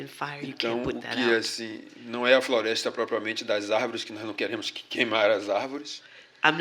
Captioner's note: speaking portuguese